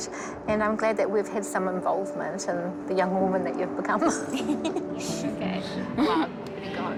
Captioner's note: chuckles